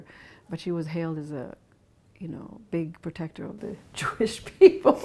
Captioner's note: laughs